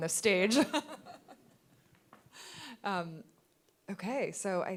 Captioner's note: laughing